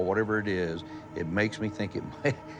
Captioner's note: chuckles